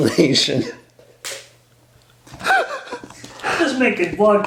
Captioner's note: laughs everywhere